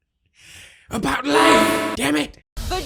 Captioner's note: again echoing